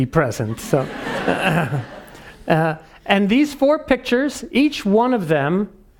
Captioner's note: laugh